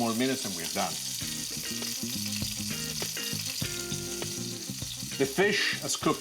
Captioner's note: sizzling; jazzy music